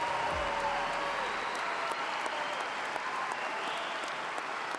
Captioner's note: applause